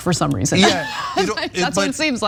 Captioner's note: laugh